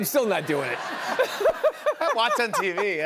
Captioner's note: laughter